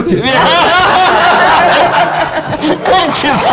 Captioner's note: laughs